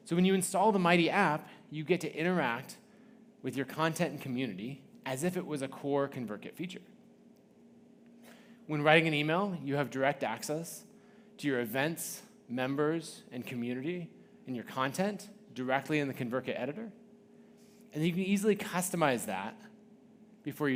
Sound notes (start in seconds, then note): none